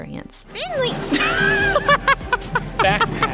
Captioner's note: laugh